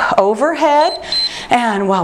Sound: timer beeps

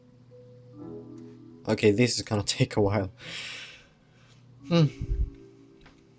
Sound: sigh

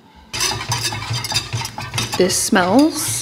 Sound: chocolate chips pattering; whisk scraping

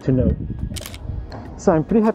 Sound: camera clicking

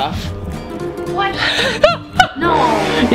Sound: laughs

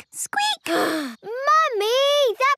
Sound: sighs

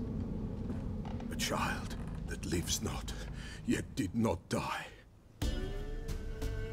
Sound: normal voice

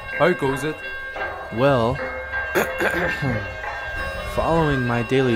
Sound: clearing throat

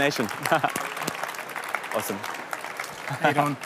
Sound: applause

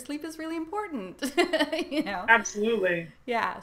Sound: laughs

